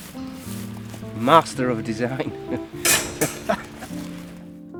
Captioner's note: laughs